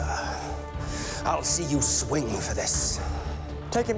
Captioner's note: gasps